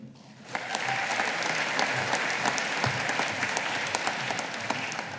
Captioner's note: audience applauding